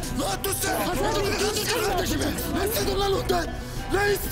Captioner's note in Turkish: kavga sesleri̇